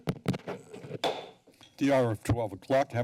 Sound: gavel pounding

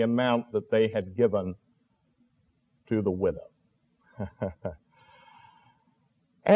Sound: chuckle

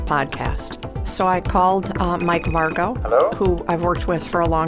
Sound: phone ringing

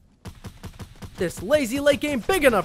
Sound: gunshots

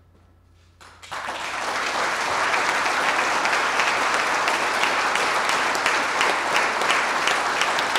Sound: applause

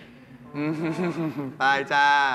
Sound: laughter

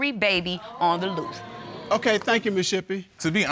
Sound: audience gasps

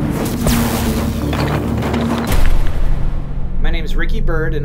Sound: electrical explosion; bricks rattling

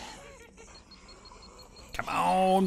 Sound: exploder Beeping

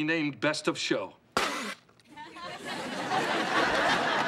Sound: spits!; audience laughs

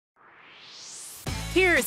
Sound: swoosh

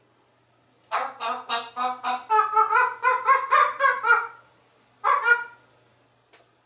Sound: dog Barking

